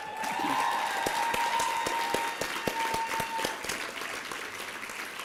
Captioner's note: applause and cheering